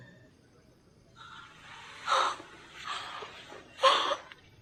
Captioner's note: gasping